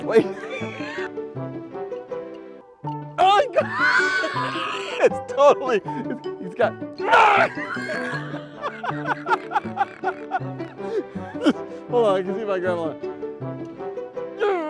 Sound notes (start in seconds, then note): 0.0 laughing; 3.2 laughing